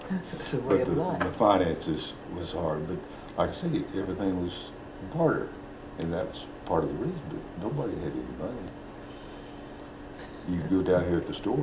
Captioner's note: laughs